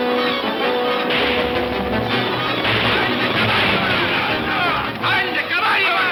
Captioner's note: dramatic orchestral music; guns firing; men shouting; Pancho shouting in Spanish